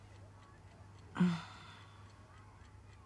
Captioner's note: grunts